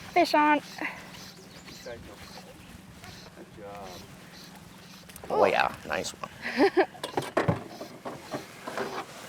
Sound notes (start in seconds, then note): 2.0 mumbles; 6.3 laughs